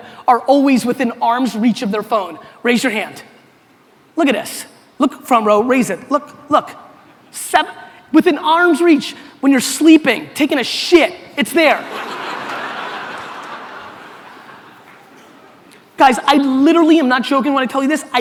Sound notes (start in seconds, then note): 11.8 audience laughter